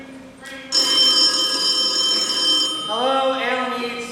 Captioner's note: phone rings